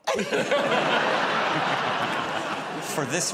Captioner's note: laughter